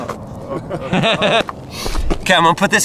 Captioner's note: laughing